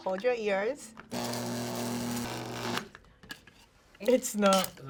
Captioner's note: grinder whirs softly